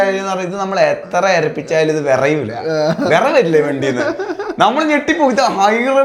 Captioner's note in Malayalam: പൊട്ടിച്ചിരി